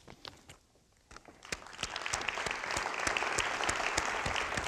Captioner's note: crowd applauding